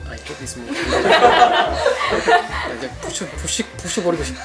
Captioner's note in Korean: 웃음